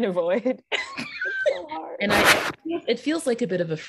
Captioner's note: all laughing